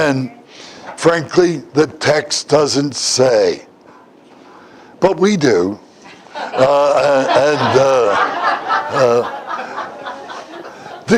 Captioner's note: Смех